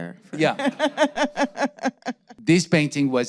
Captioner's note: laughing